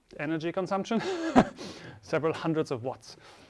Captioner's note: chuckles